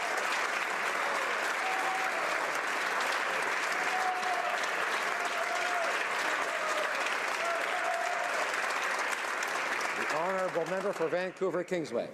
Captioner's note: applause